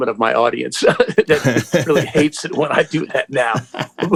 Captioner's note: laughter